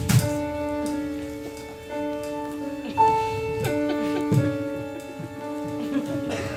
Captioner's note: bag thuds; intense music continues